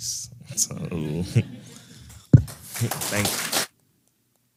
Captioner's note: laugh; applause